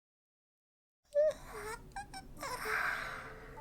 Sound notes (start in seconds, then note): 2.3 wind howling, soft piano music; 2.4 yawns